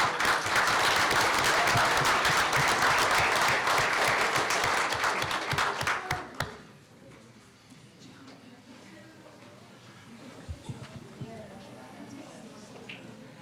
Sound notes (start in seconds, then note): 0.0 applause; 9.0 people chattering